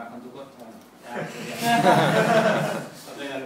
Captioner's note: laugh